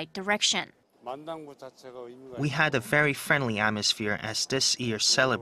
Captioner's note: Korean